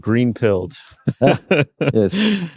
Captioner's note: laughter